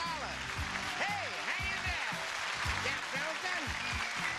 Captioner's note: audience applause